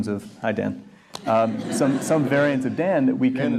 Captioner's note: audience chuckles